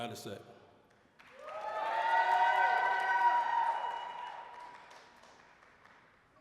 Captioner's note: applause, cheering